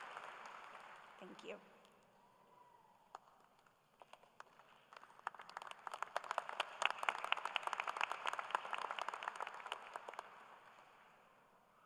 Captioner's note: applause